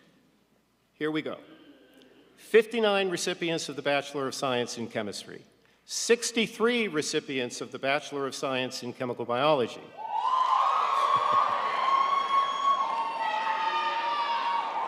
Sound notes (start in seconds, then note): 10.0 audience cheering